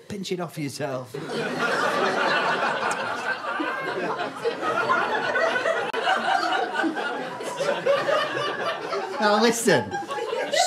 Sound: audience laughter

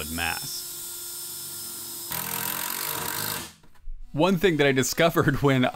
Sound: impact drill being used to attach cabinets

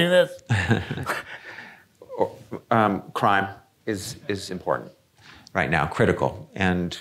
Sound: chuckles

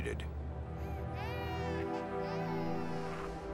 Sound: baby cries

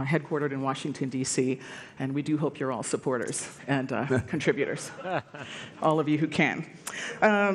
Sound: laughter

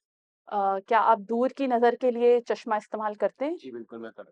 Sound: in Urdu

